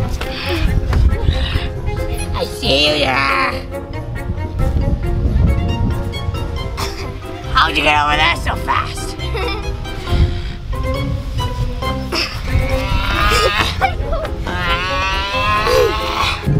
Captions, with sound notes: - I see you. How'd you get over there so fast? (girls giggle) (boy makes monster sounds)